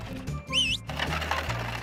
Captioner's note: whistles